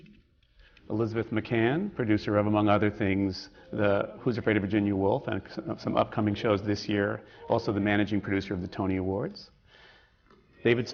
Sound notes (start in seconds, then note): none